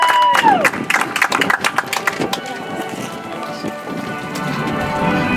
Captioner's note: audience applauds